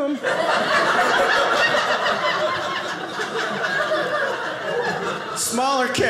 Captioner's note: audience laughing